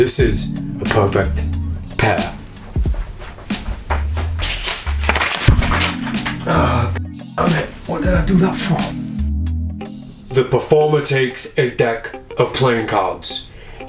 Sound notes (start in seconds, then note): 2.7 chill trap music; 4.4 cards clattering; 5.5 groans